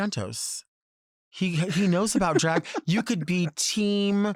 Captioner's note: Robert laughs